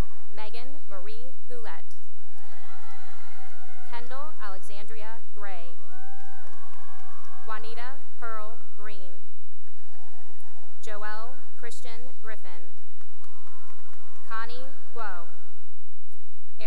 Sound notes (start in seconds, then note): 2.1 cheering; 5.7 cheering and applause; 12.7 cheering and applause